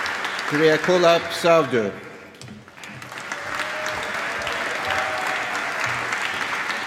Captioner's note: cheering and applause